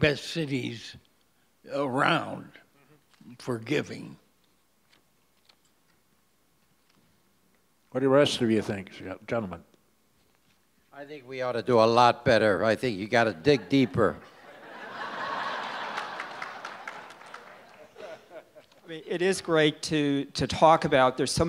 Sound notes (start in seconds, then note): 15.0 audience laughs